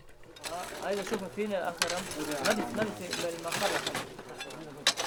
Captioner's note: Arabic spoken audio